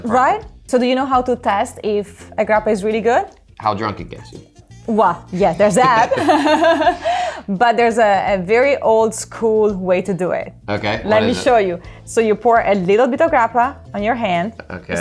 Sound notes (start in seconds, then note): 4.9 laughing